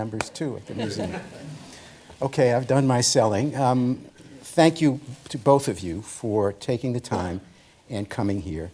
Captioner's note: laughter